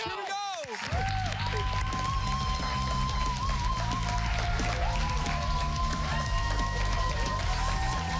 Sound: cheers and applause

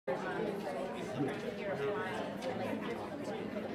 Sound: crowd chattering

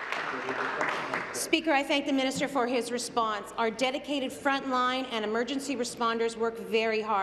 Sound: applause

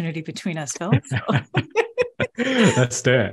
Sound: both laughing

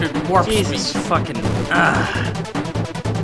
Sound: groans

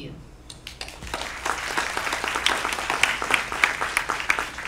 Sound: applause

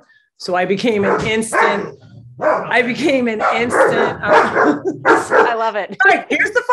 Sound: dogs barking

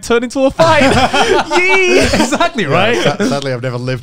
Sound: everyone laughs

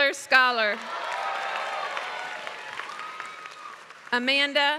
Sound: applause

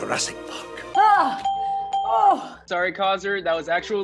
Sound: bell ringing

